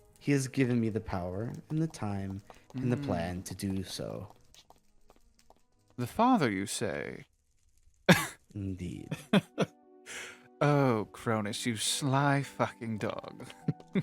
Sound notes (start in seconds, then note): 8.5 scoffs; 13.8 laughs